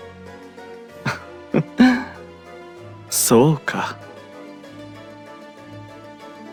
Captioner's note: laugh